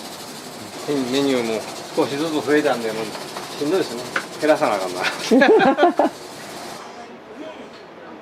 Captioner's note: laughs